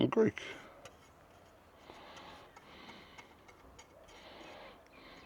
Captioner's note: metal clanking